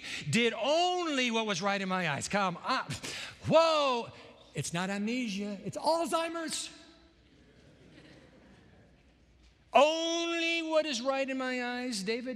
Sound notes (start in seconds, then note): 7.2 laughter